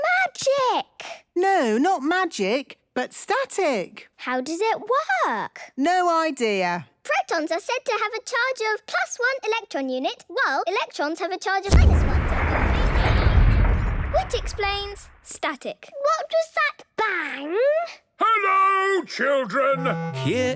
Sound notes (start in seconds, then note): 11.7 distant explosion